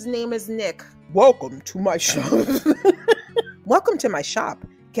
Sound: laughs

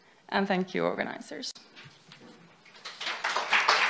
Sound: applause

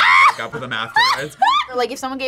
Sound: laughs

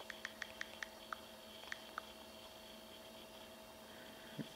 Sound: phone clicking

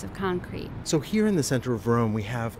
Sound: voiceover

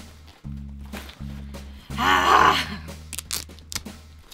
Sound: grunting

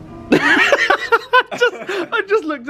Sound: laughs

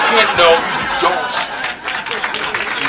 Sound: audience laughs; audience applauds

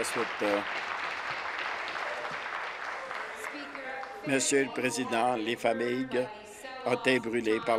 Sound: applause

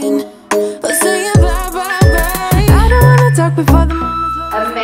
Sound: countdown timer beeping

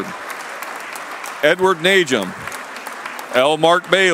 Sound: applause

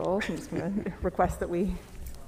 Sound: laughs

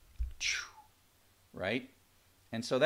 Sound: blowing air

